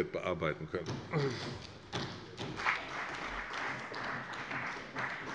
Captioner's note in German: Beifall bei der CDU